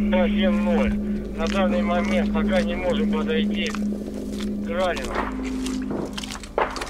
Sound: radio exchange

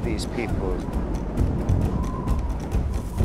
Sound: wind gusts; tribal drum music

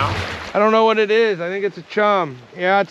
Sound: splashing

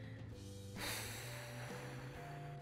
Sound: exhales

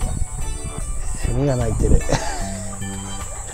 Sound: laughs

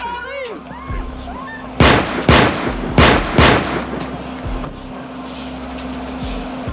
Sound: guns firing

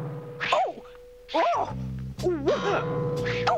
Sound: exclaiming

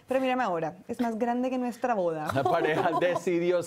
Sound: Risas

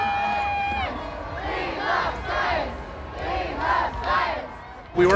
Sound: chanting

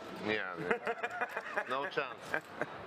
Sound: laughs

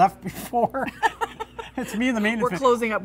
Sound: laughs

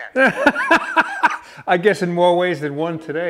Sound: laughing

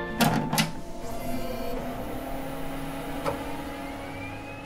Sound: machine humming

